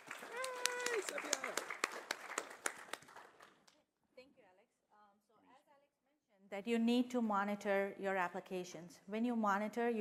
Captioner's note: applause